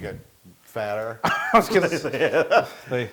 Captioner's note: laugh